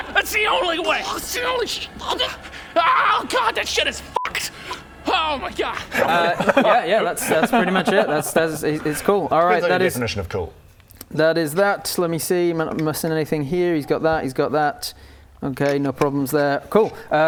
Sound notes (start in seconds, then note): 2.0 gurgles